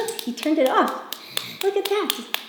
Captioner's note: claps